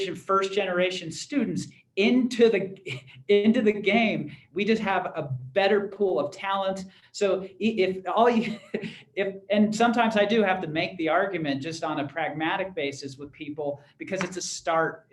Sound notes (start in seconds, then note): 8.3 laughter